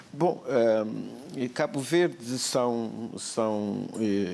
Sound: speaking portuguese

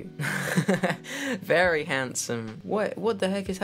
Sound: laughing

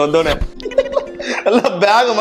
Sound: laughs

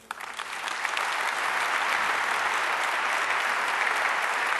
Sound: audience applause

